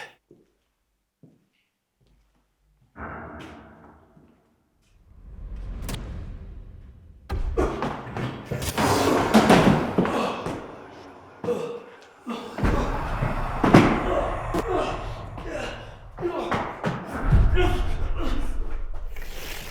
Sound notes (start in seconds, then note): 3.2 ominous boom; 5.0 screen whooshes; 6.2 static crackles; 7.6 Jacob grunts; 7.6 dramatic boom; 9.9 Jacob groaning; 14.8 static crackles; 19.5 Jacob groaning; 19.5 ominous voice